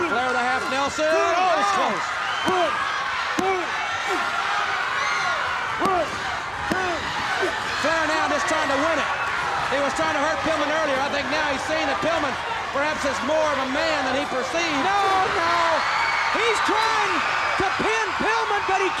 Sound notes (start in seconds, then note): 2.4 hands thudding; 4.3 crowd cheering; 4.3 wrestlers grunting; 6.6 hands thudding